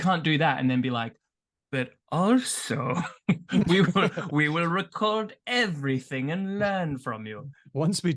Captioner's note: evil scientist voice